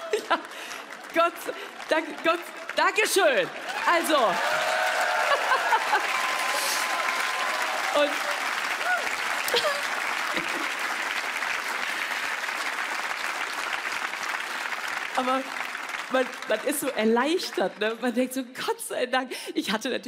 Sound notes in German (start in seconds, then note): 5.2 Sie lacht amüsiert; 6.6 Applaus, Jubel; 9.4 Sie kichert